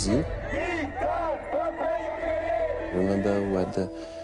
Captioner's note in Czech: křik protestujících